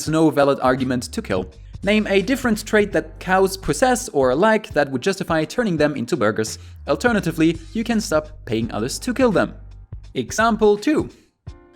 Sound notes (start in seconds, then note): none